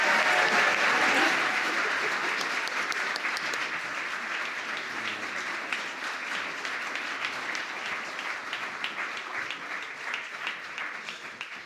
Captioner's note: applause